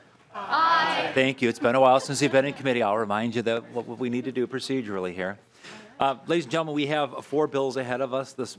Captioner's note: chorus of ayes